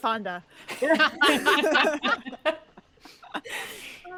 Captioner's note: all chuckling